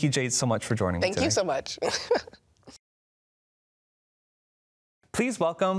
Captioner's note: laughs